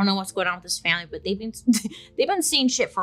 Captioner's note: laughs